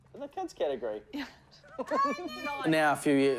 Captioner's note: laughter